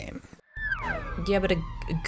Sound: slide whistle

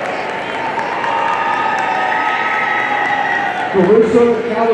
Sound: audience cheering and applauding

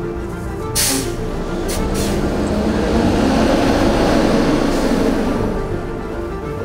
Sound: machinery revving; suspenseful music

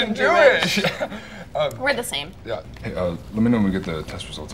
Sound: laughs

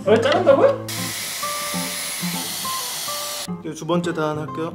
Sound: hair dryer running

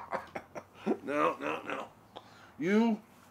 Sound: laughs

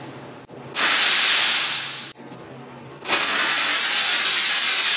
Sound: loud air pressure noise

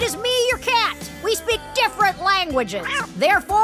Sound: meowing

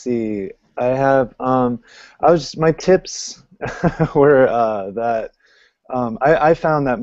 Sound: laughs

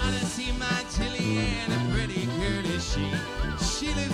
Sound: flirtatious whistling

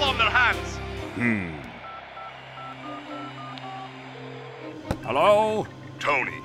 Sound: dialing on phone

